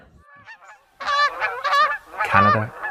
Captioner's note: geese honking